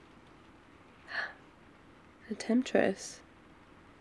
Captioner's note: gasp